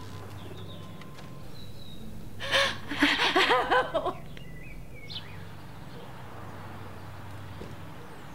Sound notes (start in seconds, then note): 2.4 sobbing